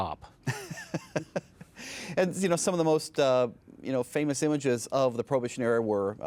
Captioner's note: laughing